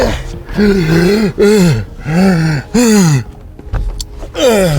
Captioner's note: panting